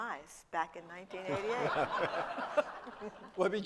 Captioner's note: laughter